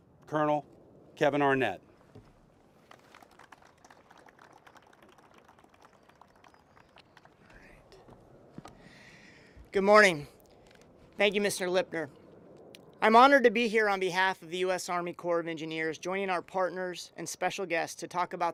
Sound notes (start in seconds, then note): 4.5 applause